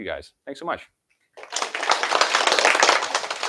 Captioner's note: applause